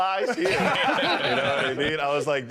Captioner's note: all laughing